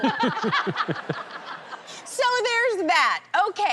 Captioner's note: laughter